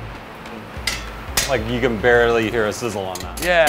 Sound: metallic clanging

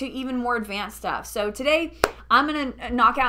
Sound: hand clap

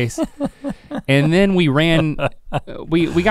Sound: chuckling

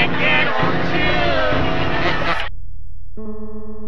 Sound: laughing

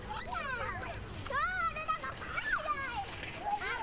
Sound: kids in the back playing

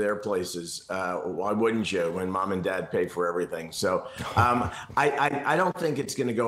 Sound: laughter

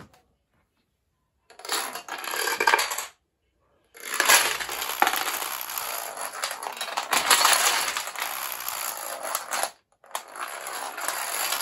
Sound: dominoes falling

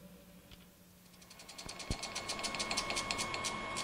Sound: film Projector Turning Off

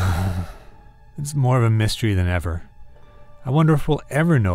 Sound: sighs

